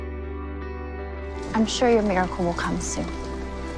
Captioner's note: voiceover